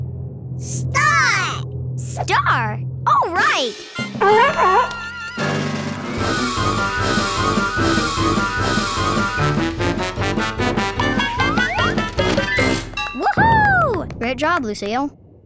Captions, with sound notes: Star! Star! Alright! [barking] - Woo hoo! - Great job, Lucille.